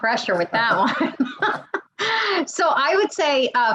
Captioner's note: laughs